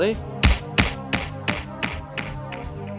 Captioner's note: resounding whack